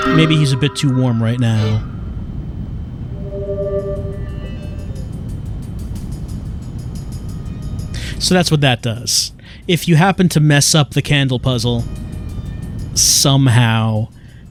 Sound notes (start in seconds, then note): 4.9 air conditioner blowing